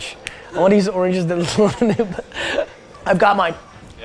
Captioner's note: laughs